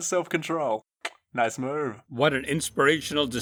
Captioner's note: click